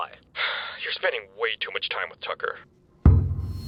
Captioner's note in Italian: sigh